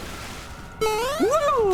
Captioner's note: Mario jump sfx